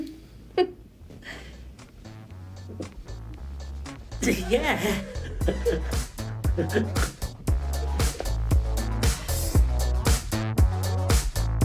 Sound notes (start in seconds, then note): 0.5 Diana laughing; 6.1 Bob laughing